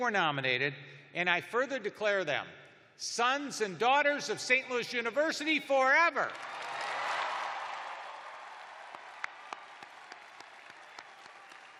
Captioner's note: cheers and applause